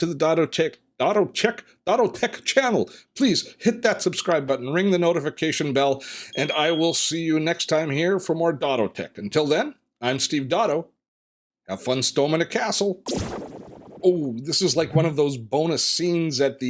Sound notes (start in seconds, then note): 13.1 buzzing